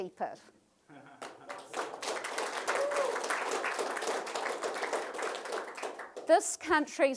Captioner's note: applause